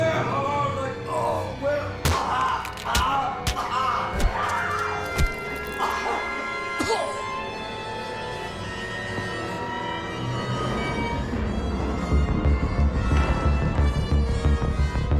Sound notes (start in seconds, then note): 1.2 Abby punches; 3.7 intruder yells; 5.9 dramatic music; 12.1 urgent music